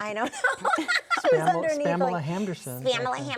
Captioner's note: laughing